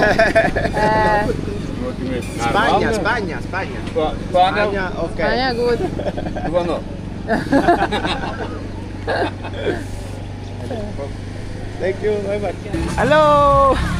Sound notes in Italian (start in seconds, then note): 11.5 risate